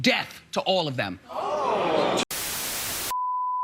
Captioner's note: shocked gasps; static